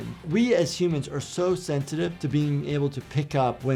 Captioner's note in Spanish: none